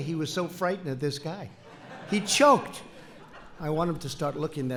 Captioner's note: laughter